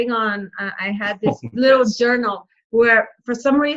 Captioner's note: laughs